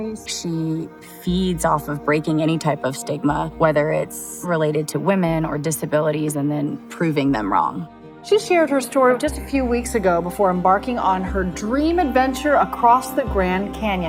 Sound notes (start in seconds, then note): 8.2 female anchor VO